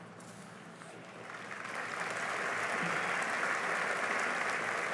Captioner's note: applause